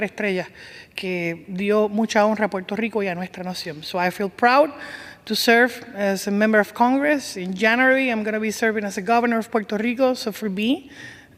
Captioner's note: speaking spanish